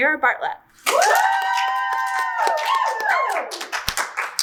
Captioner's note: audience cheers